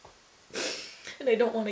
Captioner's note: sniffles, inhales deeply